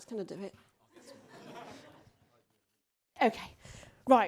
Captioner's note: audience laughs